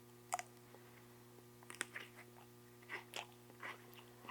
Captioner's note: teeth crunching